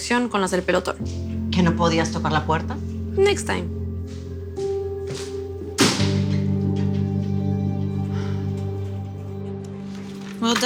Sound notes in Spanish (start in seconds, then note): 5.7 Portazo